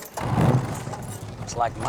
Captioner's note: engine starts